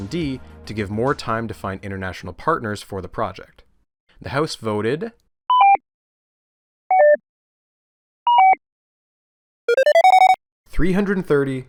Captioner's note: suspenseful electronic beeps